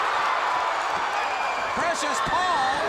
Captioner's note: crowd cheering